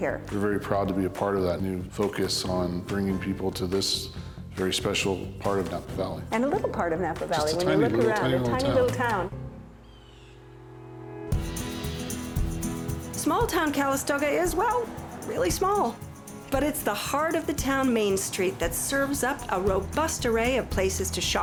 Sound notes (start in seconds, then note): 9.8 hawk calling; 10.8 upbeat music